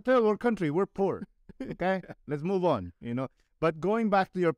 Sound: laughter

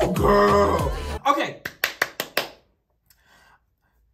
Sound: claps

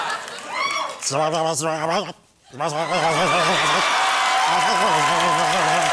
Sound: incoherent noises from the back of his throat

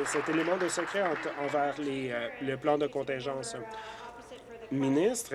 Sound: applause

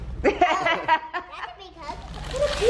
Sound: laughing

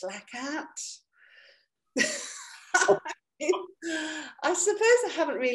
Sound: laughs

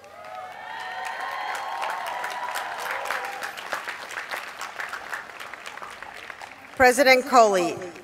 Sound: cheers and applause

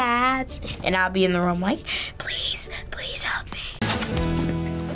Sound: whispers

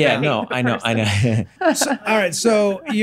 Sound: Glenn and Megan laughing

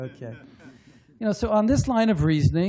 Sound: laughter

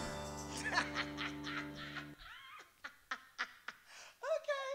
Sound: laughs

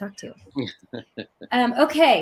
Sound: chuckles

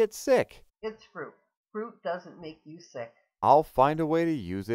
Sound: voiceover

